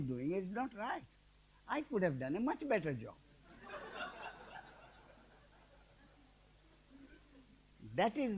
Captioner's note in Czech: smích